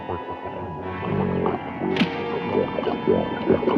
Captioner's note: gurgling